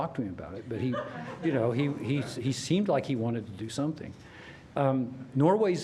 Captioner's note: laughter